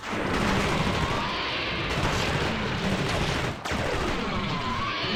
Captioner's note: gun shooting; monsters growling